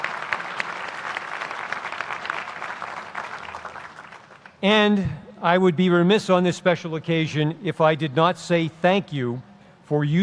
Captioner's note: applause